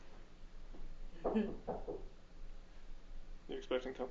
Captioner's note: knocking on door